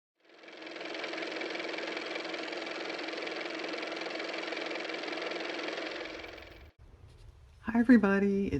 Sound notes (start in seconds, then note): 0.2 car motor